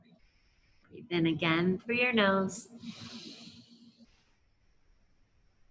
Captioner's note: whispers; inhales